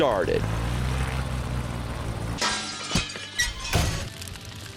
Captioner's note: plane engine roars; glass breaking; crashing